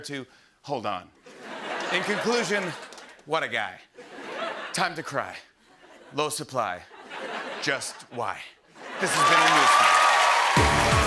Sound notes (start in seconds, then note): 1.2 laughter; 4.2 laughter; 6.8 laughter; 9.0 cheers and applause